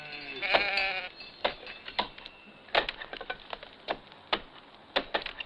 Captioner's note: tools thudding